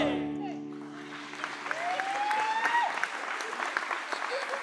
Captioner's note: applause; cheering